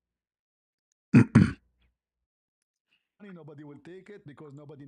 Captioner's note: membersihkan tekak dan batuk